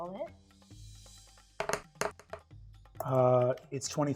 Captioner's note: die rolling